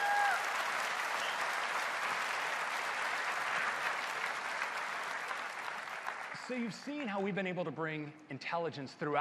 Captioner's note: cheers and applause